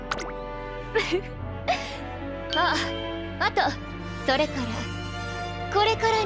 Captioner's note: laughs